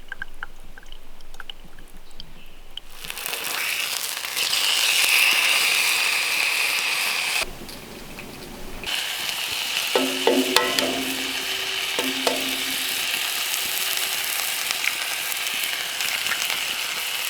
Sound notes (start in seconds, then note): 2.8 sizzling; 9.9 tapping; 14.9 sizzling